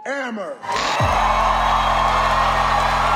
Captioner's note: crowd cheering; funky music